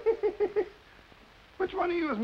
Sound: laughs

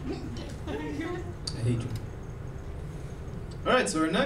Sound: laughing

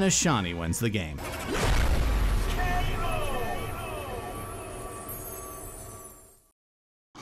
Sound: dramatic sound effect and voice echoing "K.O."

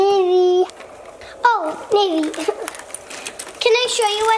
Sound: chuckles

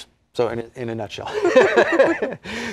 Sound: laughter

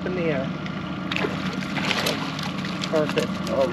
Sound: fish splashing

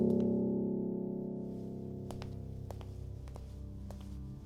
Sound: footsteps

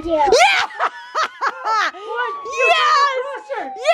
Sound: laughing

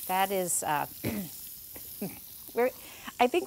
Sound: oil sizzling

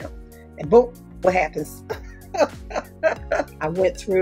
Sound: laughs

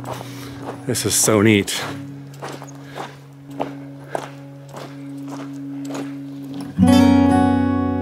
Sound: crunching footsteps

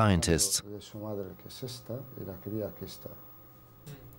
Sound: researchers speaking Greek

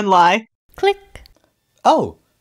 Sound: click

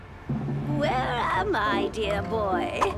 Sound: none

